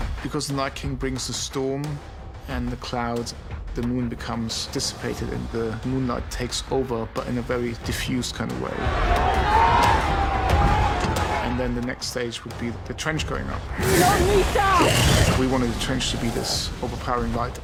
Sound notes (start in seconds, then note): 8.8 shouting